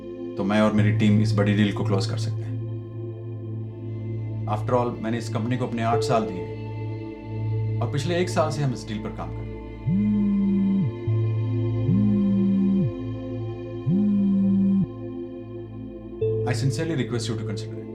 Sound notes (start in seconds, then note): 9.8 phone Vibration Sound